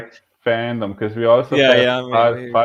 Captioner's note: laughing